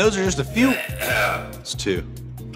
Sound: cough, cough

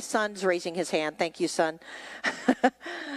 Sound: chuckles

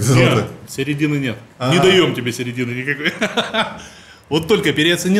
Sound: laughs

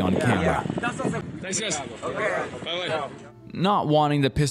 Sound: speaking Portuguese

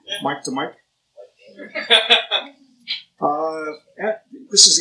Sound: laughs

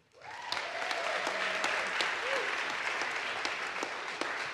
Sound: audience applauds

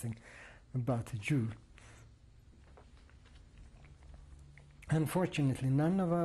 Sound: pauses for 3 seconds

